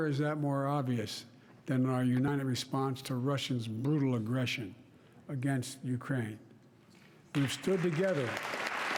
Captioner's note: applause